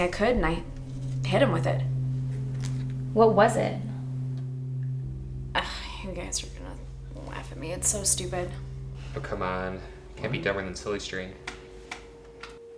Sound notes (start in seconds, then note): 4.9 sighs